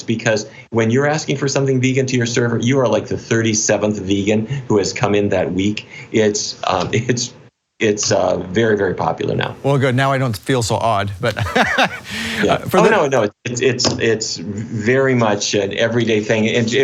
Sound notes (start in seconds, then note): 11.5 laughs